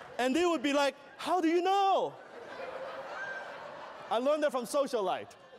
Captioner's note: laughter